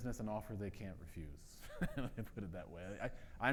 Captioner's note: laughs